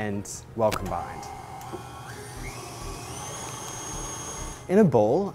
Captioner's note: mixer whirring